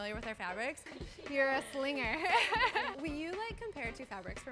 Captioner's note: laughs